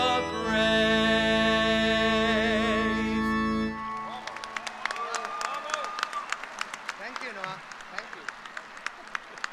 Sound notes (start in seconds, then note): 3.9 applause